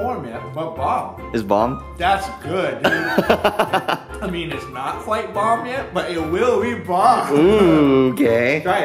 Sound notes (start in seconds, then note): 2.8 laughs